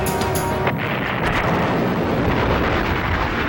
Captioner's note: booming